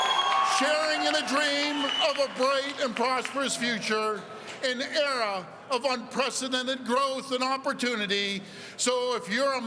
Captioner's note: cheering